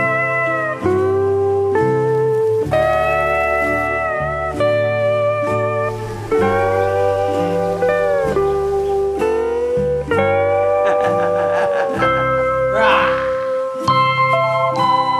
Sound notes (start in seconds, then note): 10.4 laughing